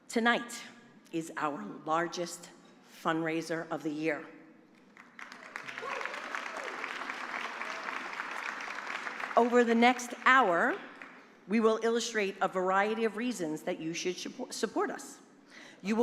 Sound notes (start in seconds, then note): 4.9 applause